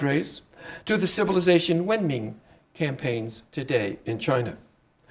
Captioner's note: speaking Chinese